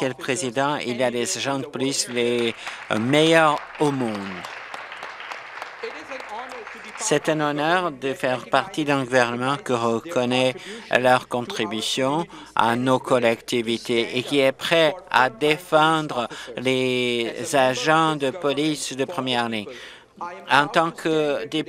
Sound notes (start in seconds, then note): 6.8 applause